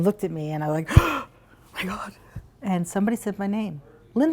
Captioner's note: gasp